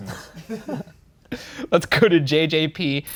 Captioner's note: both laughing